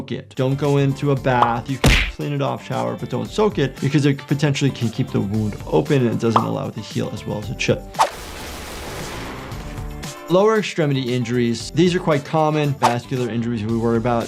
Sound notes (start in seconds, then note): 8.0 gunshot fires